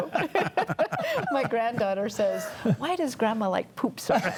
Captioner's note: panelists laughing